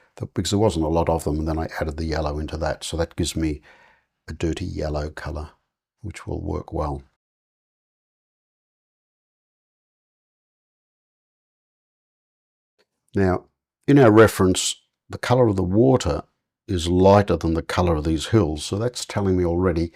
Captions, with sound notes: Because there wasn't a lot of them and then I added the yellow into that. So that gives me a dirty yellow color which will work well. [silence] Now, in our reference, the color of the water is lighter than the color of these hills. So that's telling me already